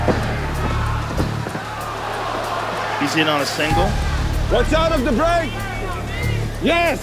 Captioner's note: none